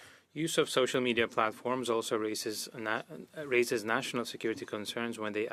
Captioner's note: speaking French